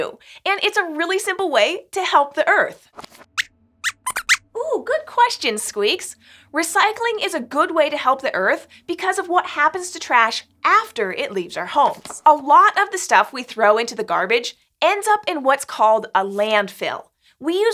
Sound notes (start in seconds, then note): 3.8 squeaks squeaks